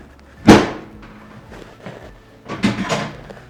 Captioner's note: bed thuds